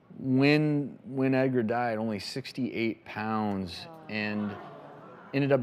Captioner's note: audience gasps